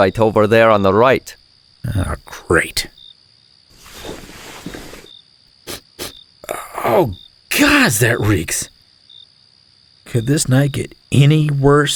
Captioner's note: sniffs